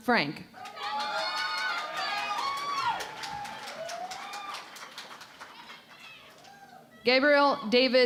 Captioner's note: cheering and Applause